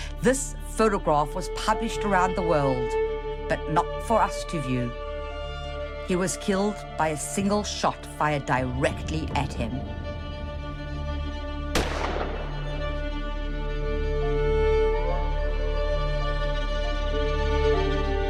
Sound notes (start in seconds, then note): 11.7 gun fires; 14.1 intense music